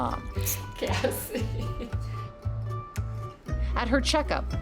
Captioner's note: laughs